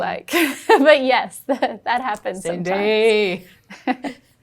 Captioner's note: laughing